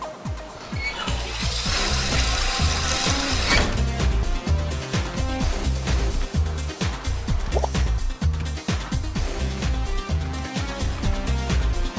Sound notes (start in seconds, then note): 0.6 mechanical sound